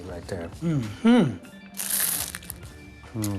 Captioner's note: loud crunch